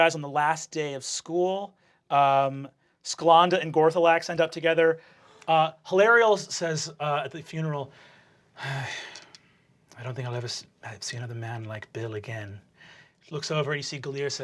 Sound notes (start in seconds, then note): 8.6 sighing